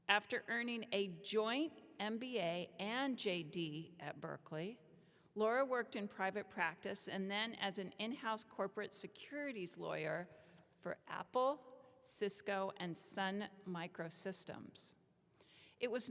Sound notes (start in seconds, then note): none